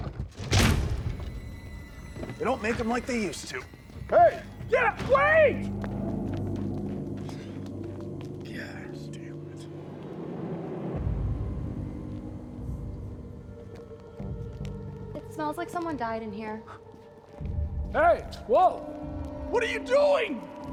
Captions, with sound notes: (dramatic music) - They don't make them like they used to. - Hey! - Yeah, wait! (dramatic music continues) - (sighs) Goddamn it. (eerie music) - It smells like someone died in here. - Hey. - Whoa. - What are you doing?